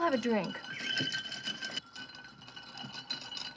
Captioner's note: ice clinking